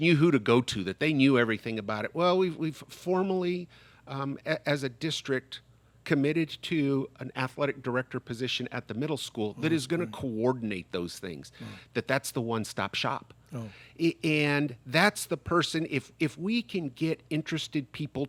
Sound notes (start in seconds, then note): 9.6 murmurs